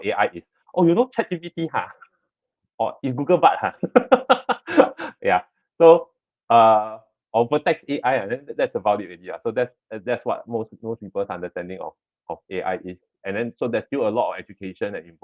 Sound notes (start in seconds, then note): 3.7 laughs